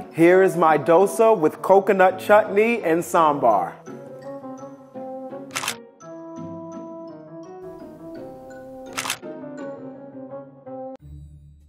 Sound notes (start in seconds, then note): 4.0 mischievous music; 5.6 camera clicking; 11.4 jazzy music